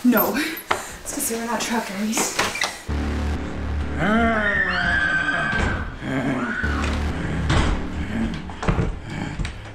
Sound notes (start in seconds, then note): 2.8 ominous music; 4.1 growling; 4.4 screaming